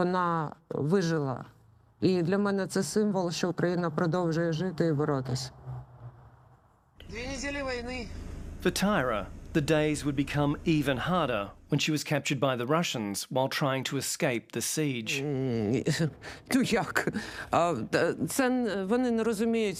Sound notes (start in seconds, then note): 7.3 speaks in ukrainian